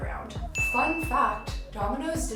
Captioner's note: ding